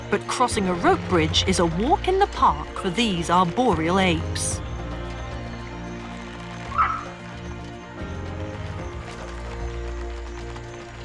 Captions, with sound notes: But crossing a rope bridge is a walk in the park for these arboreal apes. (upbeat music) (rope creaking)